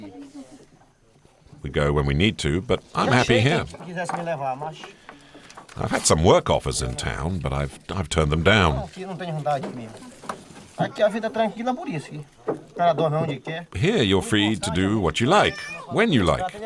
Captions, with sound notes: we go when we need to but I'm happy here. I've had some work offers in town, but I've turned them down. [Portuguese spoken audio] Here, you're free to do what you like when you like.